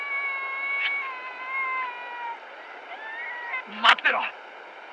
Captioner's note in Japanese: 小虎の泣き声